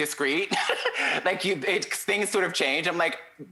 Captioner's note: chuckles